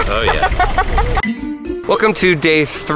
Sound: laughter

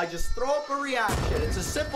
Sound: explosion

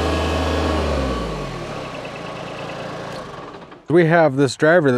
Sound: engine stopping

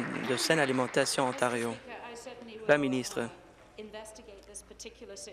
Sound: applause

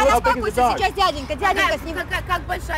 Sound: speaking in Russian

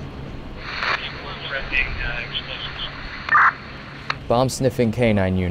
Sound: US Secret Service radio

